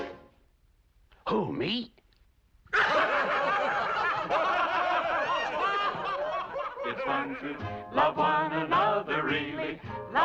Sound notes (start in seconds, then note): 2.7 laughter